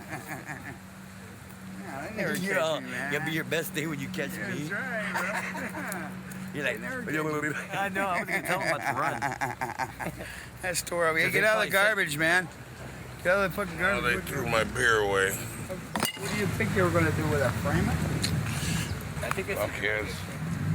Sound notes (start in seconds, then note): 4.3 Clyde and Cliff Laughing